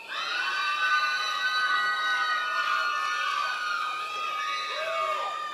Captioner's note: members of the audience cheering